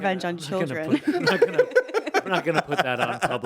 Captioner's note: laughing